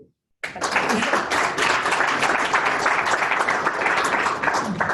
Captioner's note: applause